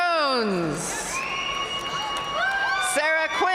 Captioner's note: audience cheering and applauding